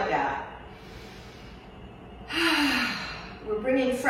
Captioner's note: exhales; inhales; exhales